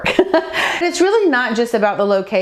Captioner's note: chuckling